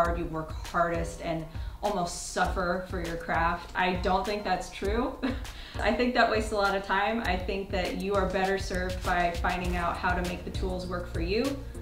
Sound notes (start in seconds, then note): 5.2 chuckles